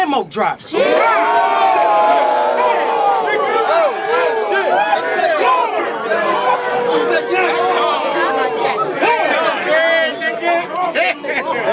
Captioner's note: crowd Reaction